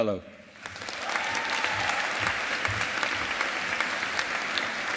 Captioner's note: audience applauding